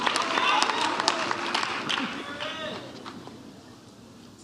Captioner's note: audience cheers